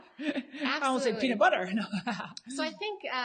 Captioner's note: laughs